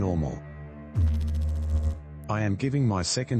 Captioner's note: electrical noise